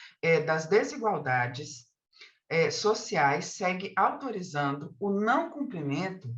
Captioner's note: continues speaking in Portuguese